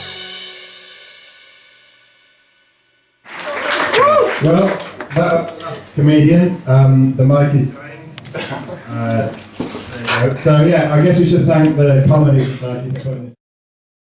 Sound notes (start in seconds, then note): 3.2 applause; 7.2 microphone cutting out